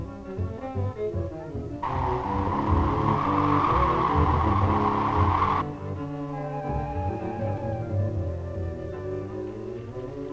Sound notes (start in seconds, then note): 1.8 wind howling